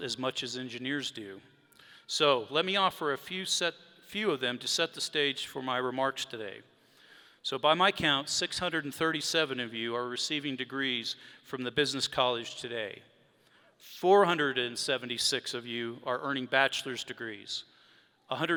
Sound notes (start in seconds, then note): none